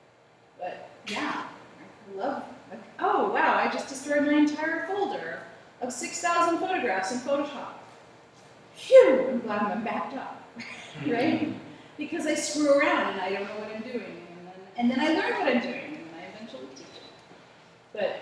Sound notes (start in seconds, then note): 10.6 laughter